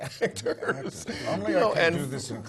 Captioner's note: laugh